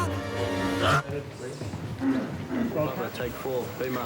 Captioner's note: chattering